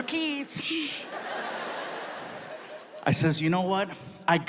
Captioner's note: audience laughs